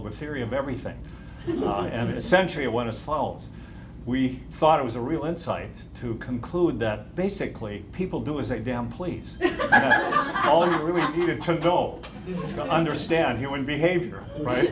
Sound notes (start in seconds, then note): 9.4 laughter